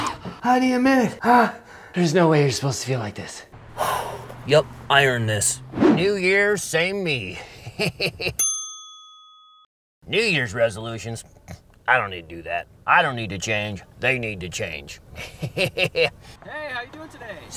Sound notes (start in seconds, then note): 7.4 laughs; 8.4 bell chiming; 15.1 laughs